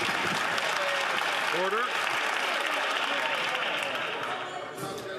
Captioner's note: some Applause